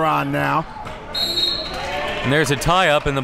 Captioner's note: whistle blows